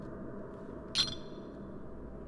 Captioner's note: clink